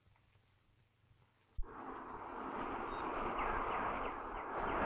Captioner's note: traffic whirring; birds chirping